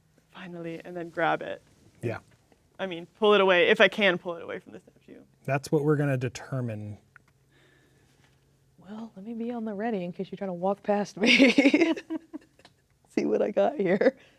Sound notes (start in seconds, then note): 12.3 laughing